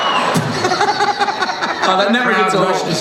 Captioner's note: laughing